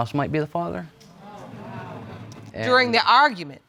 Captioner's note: audience exclaims